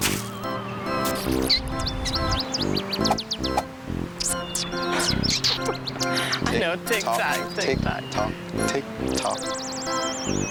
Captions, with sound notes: (laughing) I know ticktock, ticktock. - Ticktock, ticktock.